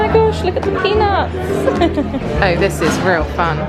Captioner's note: laughing